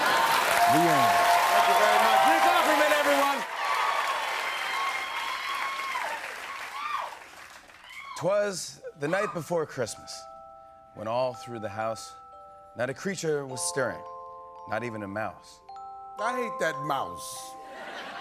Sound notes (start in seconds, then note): 3.5 cheers and applause